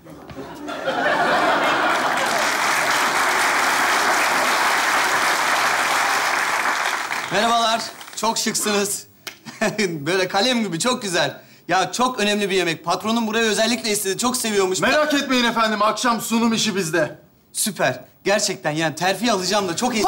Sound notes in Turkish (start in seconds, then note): 0.5 Kahkaha ve alkış sesleri